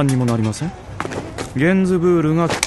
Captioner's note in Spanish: el perro chilla